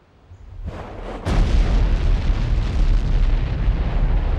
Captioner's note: booming